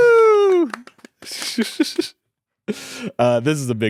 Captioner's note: chuckles